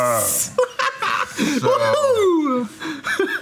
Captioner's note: cackling